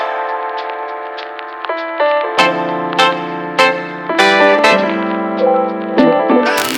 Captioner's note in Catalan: Aplaudiment